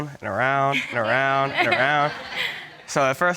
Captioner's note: all chuckling